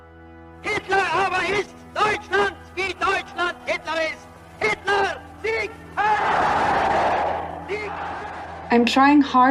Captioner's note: shouting in German